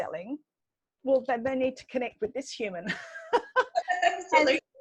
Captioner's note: laughs